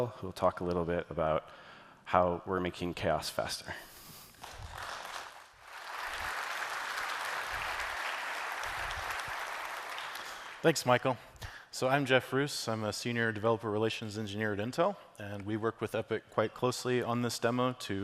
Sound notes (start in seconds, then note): 4.3 applause